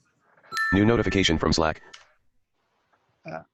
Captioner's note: computer Voice